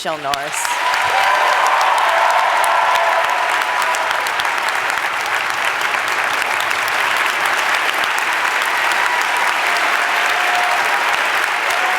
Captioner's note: applause